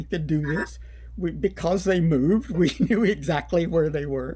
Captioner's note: laughter